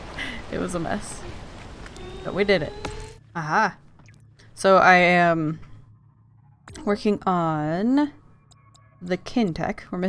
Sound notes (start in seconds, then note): none